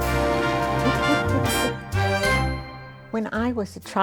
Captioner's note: chuckling